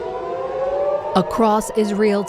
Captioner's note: sirens blaring